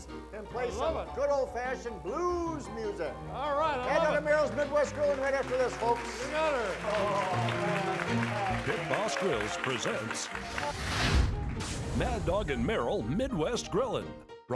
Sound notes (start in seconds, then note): 3.7 audience clapping; 7.3 audience clapping